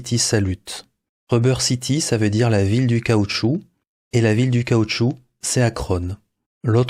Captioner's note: french